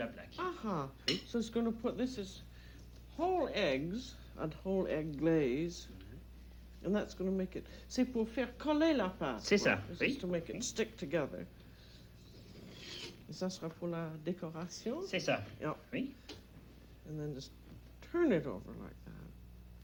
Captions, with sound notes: Aha! So he's going to put -- This is whole eggs, a whole-egg glaze, and that's going to make it -- [ Speaking French ] -[ Speaking French ] -It's to make it stick together. [ Both conversing in French ] And then just turn it over like that.